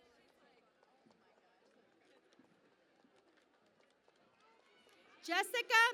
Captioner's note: cheering and Applause